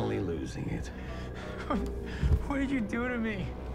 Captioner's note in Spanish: Llorando